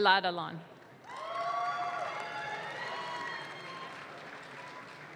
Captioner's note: audience claps